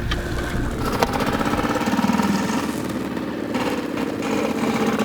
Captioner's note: outboard motor puttering